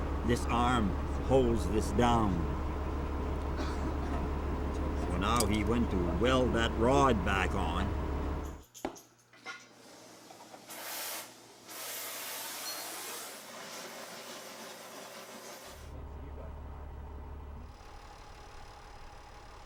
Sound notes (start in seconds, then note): 10.7 blowtorch hissing; 16.2 tractor engine stalls